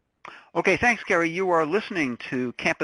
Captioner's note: voiceover